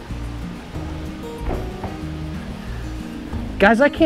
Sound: footsteps thudding

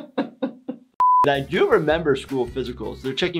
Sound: continues laughing; beep

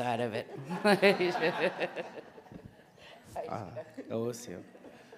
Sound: audience laughing

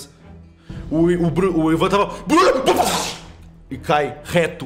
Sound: gunshot

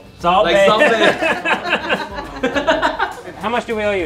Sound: everyone laughing

